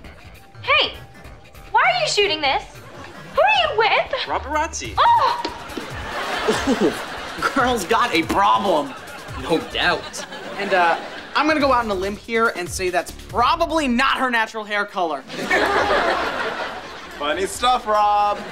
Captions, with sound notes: Hey, why are you shooting this? Who are you with? Robarazzi. Girl's got a problem. No doubt. And, uh, I'm gonna go out on a limb here and say that's probably not her natural hair color. [laughing] Funny stuff, Rob.